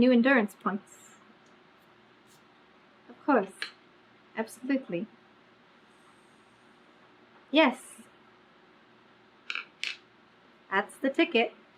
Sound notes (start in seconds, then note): none